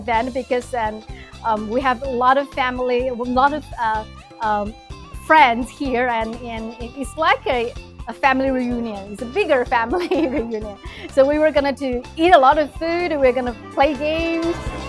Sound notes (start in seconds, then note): 9.8 chuckles